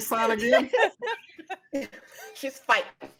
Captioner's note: everyone laughs